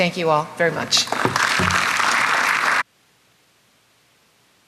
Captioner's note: audience applauds